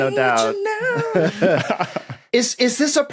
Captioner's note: chuckle